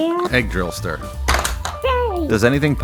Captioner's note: bonk!